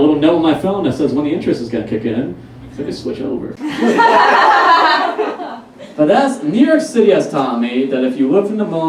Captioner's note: audience Laughs